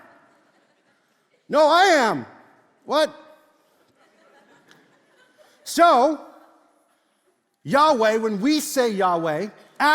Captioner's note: congregation laughs